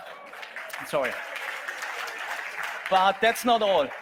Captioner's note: audience applauds